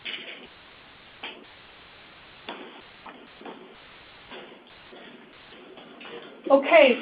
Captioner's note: silence